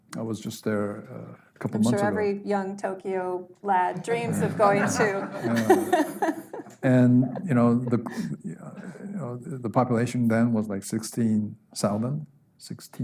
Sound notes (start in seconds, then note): 6.4 laughing